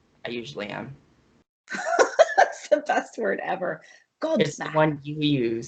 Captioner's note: laughs